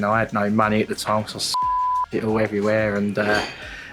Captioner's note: beep